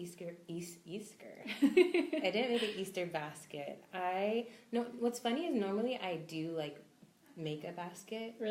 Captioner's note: both laugh